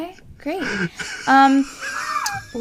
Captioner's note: laughing